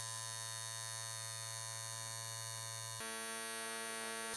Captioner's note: machine buzzing